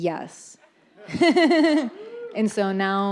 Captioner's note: audience laughs